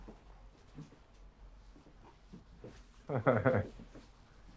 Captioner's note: chuckling fondly